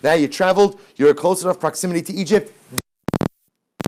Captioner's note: audio crackles